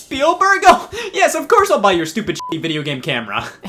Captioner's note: beep